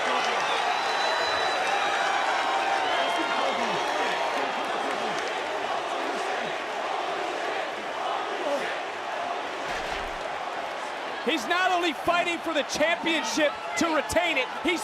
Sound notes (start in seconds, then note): 0.7 crowd cheers; 4.4 crowd chants